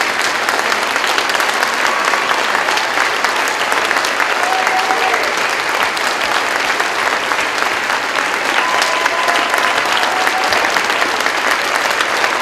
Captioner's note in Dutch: Gejuich, applaus